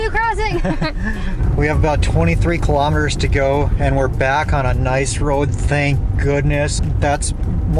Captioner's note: laughs